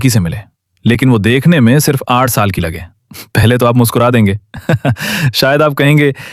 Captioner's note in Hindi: हंसी